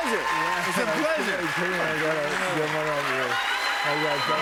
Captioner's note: cheers and applause